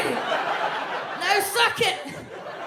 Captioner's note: audience laughs